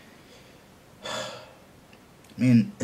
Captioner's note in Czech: Povzdechne si